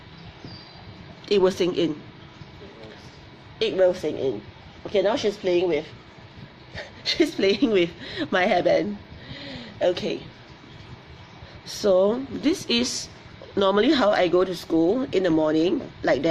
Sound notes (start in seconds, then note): 6.7 laughs